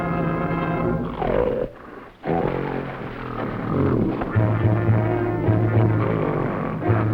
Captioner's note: gorilla grunting; tense music